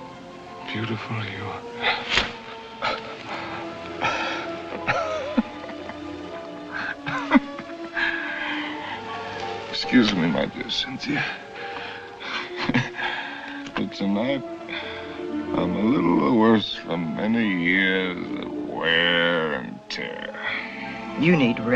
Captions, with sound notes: how very beautiful you are. [ Laughs ] Excuse me, my dear Cynthia... [ Chuckles ] but tonight I'm a little the worse... for many years of wear and tear.